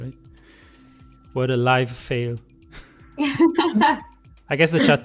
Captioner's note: laughter